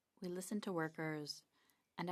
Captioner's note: speaking French